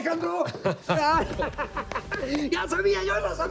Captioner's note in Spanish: Risas